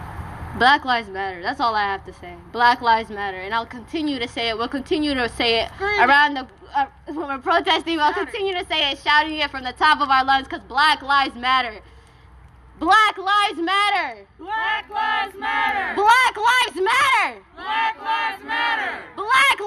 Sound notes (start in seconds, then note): 13.2 call & response chanting with crowd